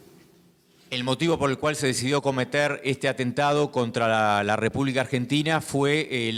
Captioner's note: speaking in foreign language